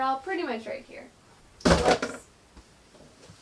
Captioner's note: thudding